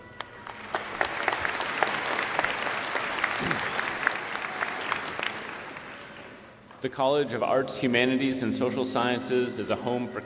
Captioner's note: applause